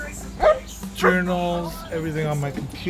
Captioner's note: dog barking